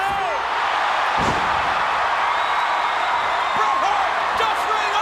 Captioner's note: audience cheering; body thuds